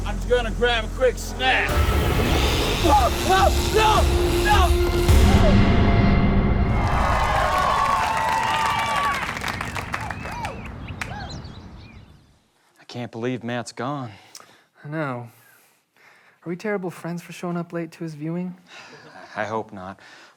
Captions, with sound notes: >>I'M JUST GOING TO GRAB A QUICK SNACK. [SCREAMING] NO! NO! >>I CAN'T BELIEVE MATT'S GONE. >>I KNOW. ARE WE TERRIBLE FRIENDS FOR SHOWING UP LATE TO HIS VIEWING? >>I HOPE NOT.